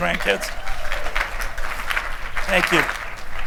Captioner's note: applause